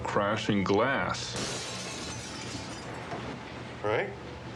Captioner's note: glass breaking